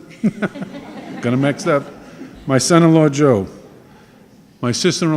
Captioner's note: laughing